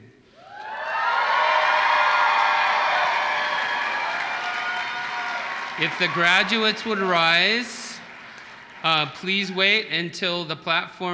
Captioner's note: applause